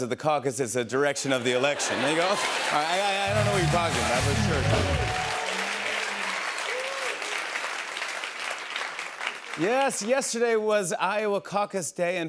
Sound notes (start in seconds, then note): 4.7 cheers and applause